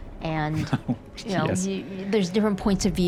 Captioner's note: chuckles